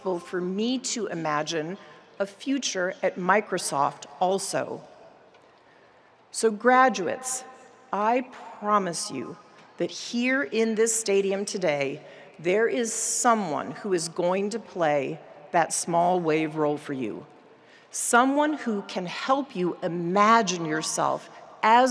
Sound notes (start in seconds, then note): none